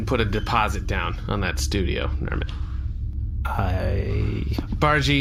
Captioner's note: quietly